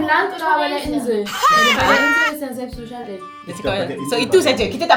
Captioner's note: speaking German